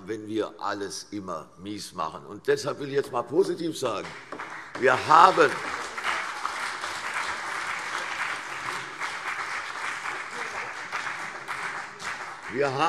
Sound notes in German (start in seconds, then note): 3.9 Beifall CDU und vereinzelt BÜNDNIS 90/DIE GRÜNEN